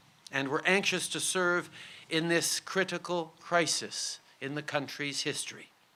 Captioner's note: none